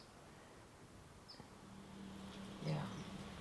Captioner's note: birds chirping